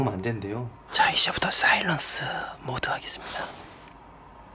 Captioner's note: is whispering